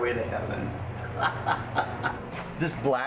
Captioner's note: laughs